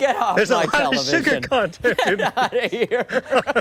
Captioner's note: laughter